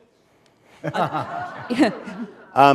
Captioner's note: laughter